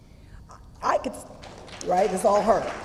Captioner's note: applause